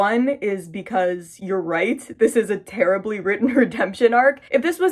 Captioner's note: laughing